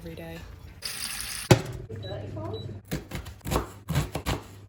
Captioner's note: water pouring; pot thumping; knife cutting